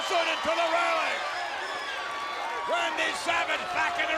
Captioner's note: audience cheers